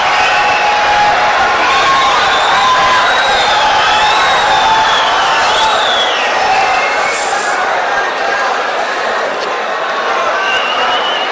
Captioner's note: wild applause and cheering for 22 seconds